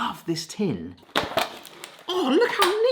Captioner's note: tin rattling